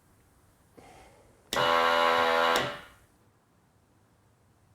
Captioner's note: machine blaring